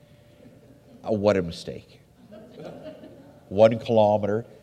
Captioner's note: audience laughs